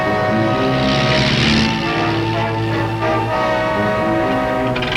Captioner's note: car engine revving; dramatic music